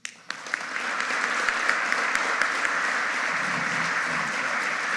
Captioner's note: audience applauding